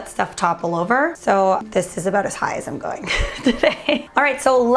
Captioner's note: laughing